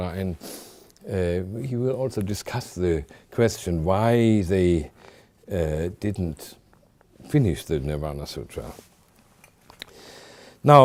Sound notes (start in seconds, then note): none